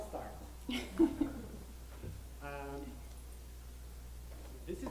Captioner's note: laughing